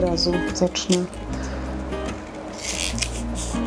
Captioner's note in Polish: dźwięk cięcia papieru